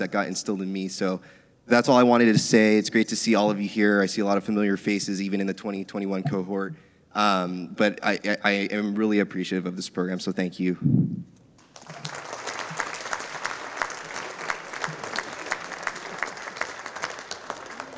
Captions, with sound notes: that got instilled in me. So that's all I wanted to say. It's great to see all of you here. I see a lot of familiar faces even in the 2021 cohort, but I am really of this program. So thank you. (audience applauding)